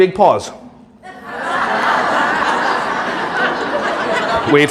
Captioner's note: audience laughing